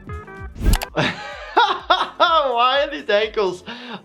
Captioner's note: laughing